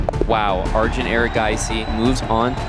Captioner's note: crowd cheering, applauding